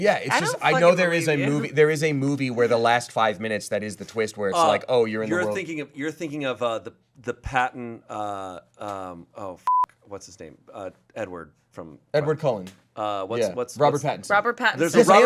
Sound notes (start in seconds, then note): 9.6 beep